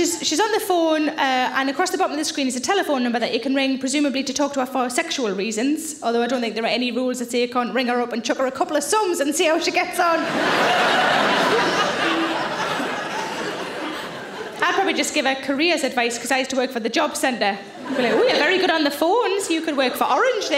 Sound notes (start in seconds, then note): 10.1 audience laughing